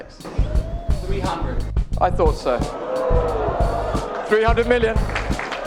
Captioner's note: crowd Gasps and applauds; applause continues